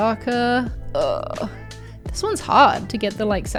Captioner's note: groans